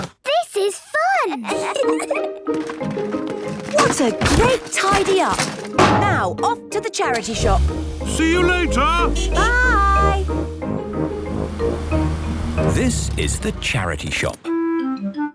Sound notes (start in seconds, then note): 1.4 kids giggling; 7.2 honking